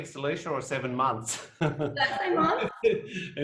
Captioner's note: laughs